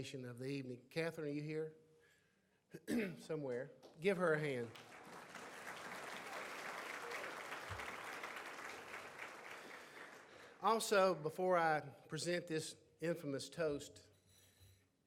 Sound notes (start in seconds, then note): 2.7 clears throat; 4.6 audience applauds